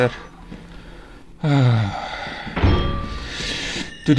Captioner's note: sigh